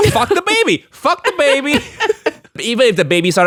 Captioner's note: chuckles